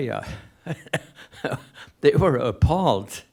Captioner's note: laughs